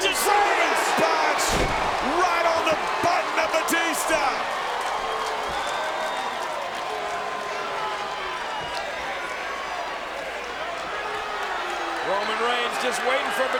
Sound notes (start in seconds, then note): 5.8 audience cheers